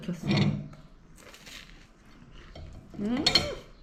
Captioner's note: crunchy